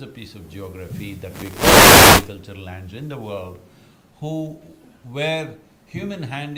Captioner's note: audio disturbance